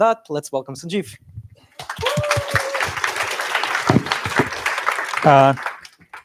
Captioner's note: applause